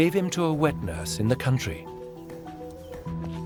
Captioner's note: light piano music plays; faint rhythmic banging